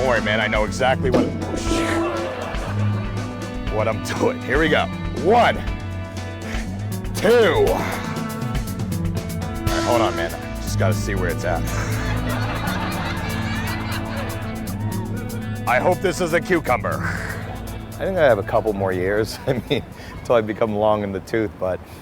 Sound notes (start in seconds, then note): 1.2 audience laughing; 8.0 lively music continues; 11.5 audience laughing